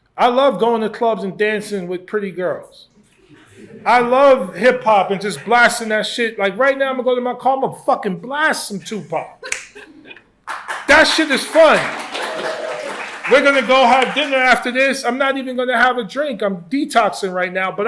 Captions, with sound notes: I love going to clubs and dancing with pretty girls. I love hip-hop and just blasting that shit. Like, right now, I'm going to go to my car. I'm going to fucking blast some Tupac. [LAUGHS] That shit is fun. [APPLAUSE] We're going to go have dinner after this. I'm not even going to have a drink. I'm detoxing right now.